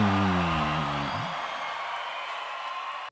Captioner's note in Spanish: Aplausos